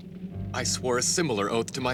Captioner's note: none